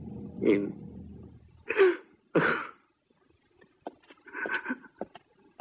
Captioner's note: sobs